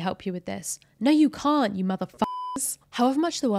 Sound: beep

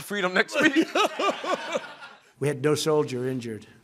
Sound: laughter

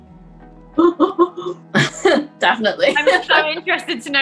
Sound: laughter

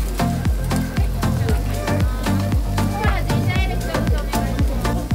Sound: people speaking in Japanese

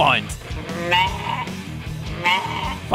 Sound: bleating

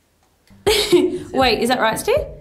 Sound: laughs

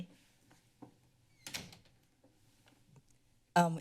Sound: door closing

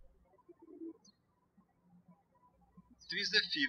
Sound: birds chirping

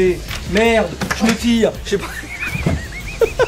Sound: laughs

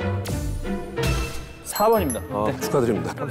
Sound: ding

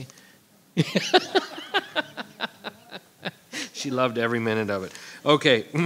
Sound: laughing

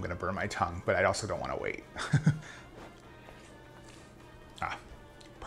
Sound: chuckles

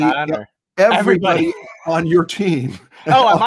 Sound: laughs

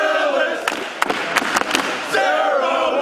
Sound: cheers

